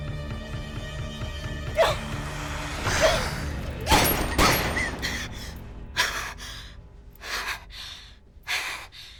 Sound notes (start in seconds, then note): 1.7 Lucy grunts; 1.8 spider hisses; 3.8 Lucy panting; 3.9 gun firing; 7.1 Lucy panting